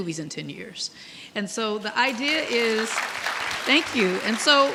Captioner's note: audience clapping